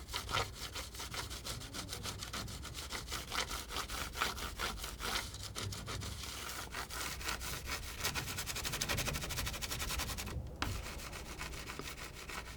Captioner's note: scratching